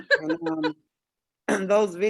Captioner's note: laughs